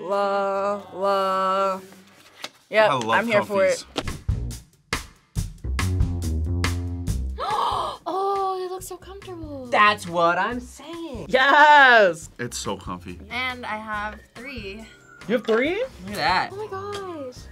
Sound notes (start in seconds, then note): 4.0 upbeat music; 7.4 gasps